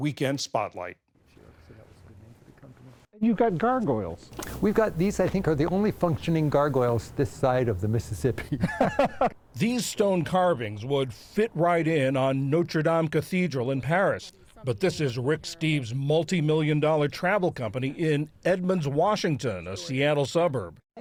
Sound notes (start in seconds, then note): 9.6 voice-over